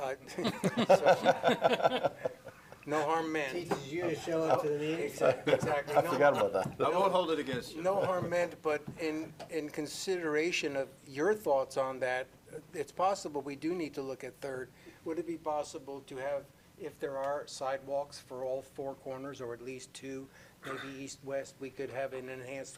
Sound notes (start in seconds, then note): 2.6 laughter